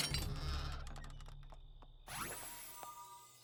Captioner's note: clang; hinges creak